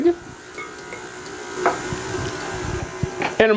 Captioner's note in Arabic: صوت خلاط